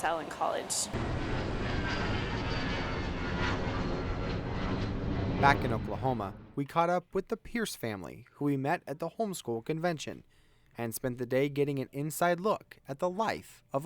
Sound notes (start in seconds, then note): 2.6 nats: airplane landing